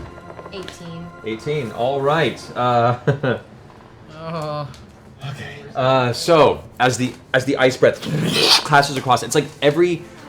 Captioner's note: chuckles; whoosh